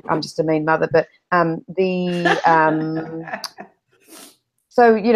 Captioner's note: laughter